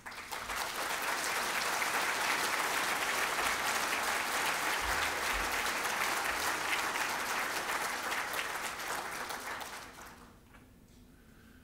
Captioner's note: applause